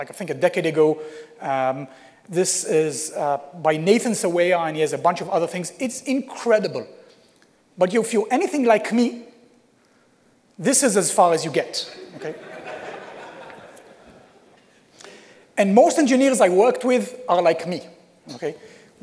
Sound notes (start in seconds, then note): 12.0 laughter